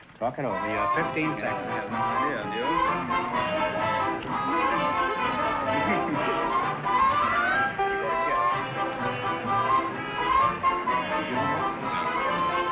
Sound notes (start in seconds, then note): 0.5 theme music; 1.9 whispering